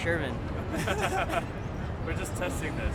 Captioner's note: group laughs